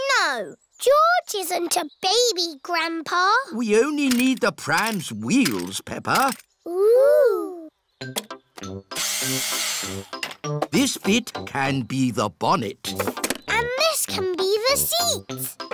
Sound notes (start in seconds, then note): 9.2 whirring